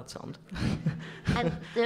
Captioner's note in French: rires